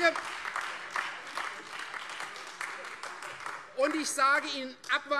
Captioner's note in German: Beifall Freie Demokraten und vereinzelt AfD